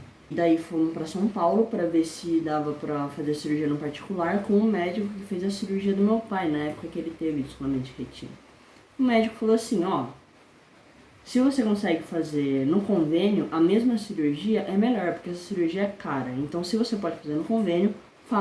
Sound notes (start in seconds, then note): none